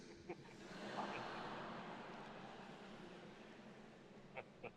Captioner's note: audience laughs